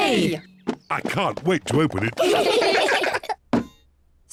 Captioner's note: all giggle